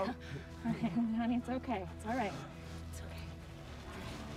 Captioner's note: chuckles